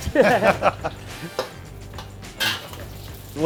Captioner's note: laughing